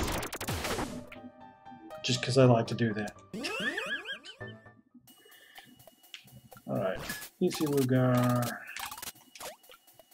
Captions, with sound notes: Just 'cause I like to do that. [wheezing laugh] All right. Isilugar...